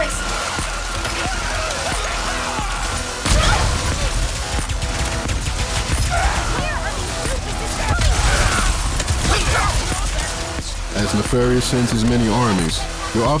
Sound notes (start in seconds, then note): 0.9 executioner crunching; 3.2 shatterbomb boom; 3.2 burst pistol clacking; 8.8 executioner punching